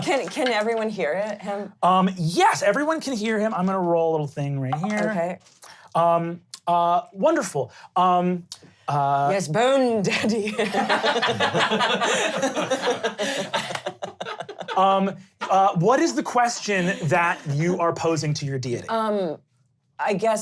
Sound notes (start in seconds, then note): 10.5 laughing